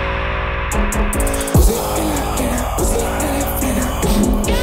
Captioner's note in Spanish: Mh, mh